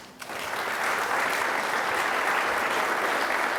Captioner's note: applause